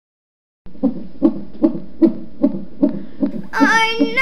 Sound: heartbeat

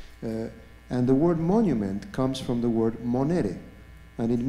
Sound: non-english

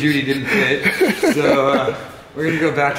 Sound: laughing

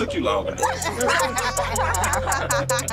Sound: laughter

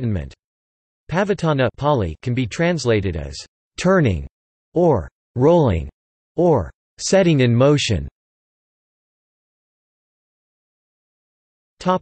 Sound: Pāli

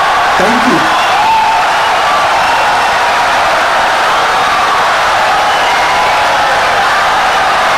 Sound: wild applause and cheering for 17 seconds

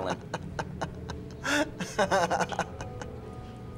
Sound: laughing

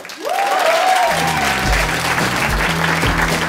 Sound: applause

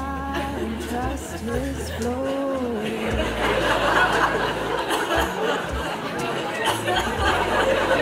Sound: laughter

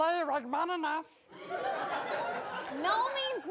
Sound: audience laughing

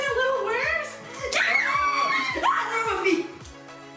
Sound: screaming

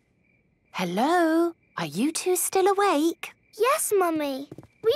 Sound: whisper

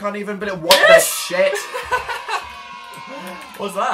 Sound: happy children yays; laughs

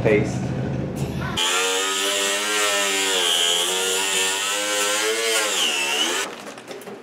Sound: power tool buzzing

